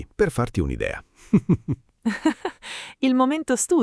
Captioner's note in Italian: Haha